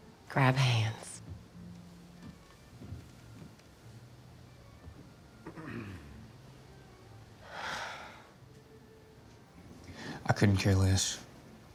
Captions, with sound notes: - Grab hands. (Cooper clears throat) (Angela sighs) - I couldn't care less.